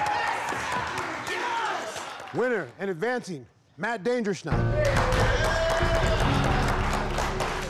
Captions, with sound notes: Yes! [CLAPPING] Winner, and advancing, Matt "Danger" Schnell. Yeah! [CLAPPING]